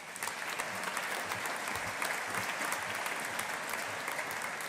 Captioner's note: audience applauding